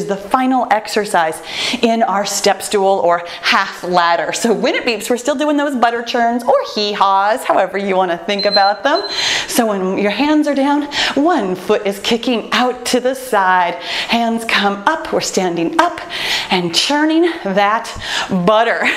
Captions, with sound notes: the final excercise to our step stool or half ladder. So when it beeps, we're still doing those Butter Churns or Hee-Haws, however you wanna think about them. (timer beeps) So when your hands are down, one foot is kicking out to the side. Hands come up, we're standing up and churning that butter.